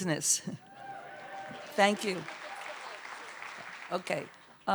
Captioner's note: cheers and applause